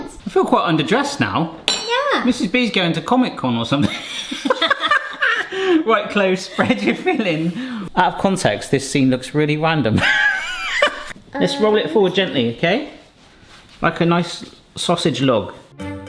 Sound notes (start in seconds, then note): 3.8 laughing; 10.0 laughs